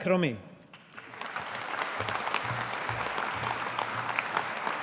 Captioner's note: audience applauding